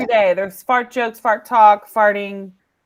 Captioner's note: laughs